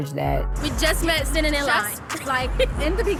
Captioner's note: laughing